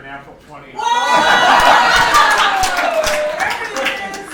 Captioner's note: laughing